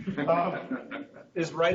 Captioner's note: group laughing